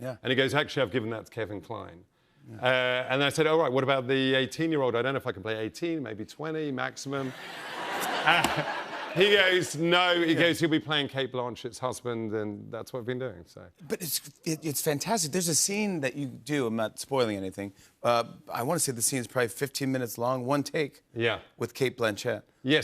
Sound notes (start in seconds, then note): 7.2 laughter